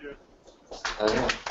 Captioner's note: applause